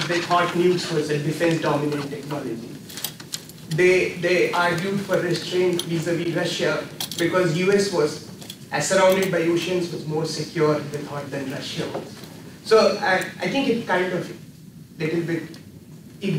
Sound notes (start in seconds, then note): none